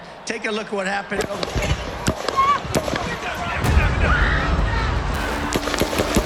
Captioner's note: gunshots firing